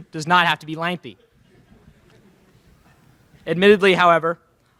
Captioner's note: laughter in crowd